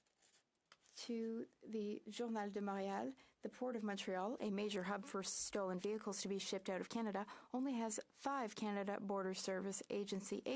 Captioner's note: speaking French